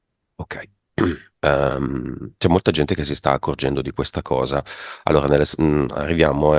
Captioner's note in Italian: schiarire la voce